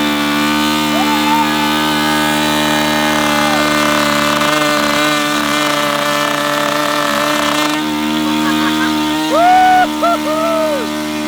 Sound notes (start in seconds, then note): 7.5 laughing